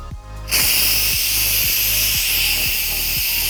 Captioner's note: steam hisses